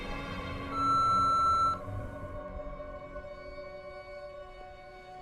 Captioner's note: terminal beeping